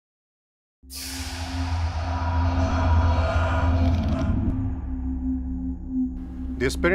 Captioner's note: sound Effects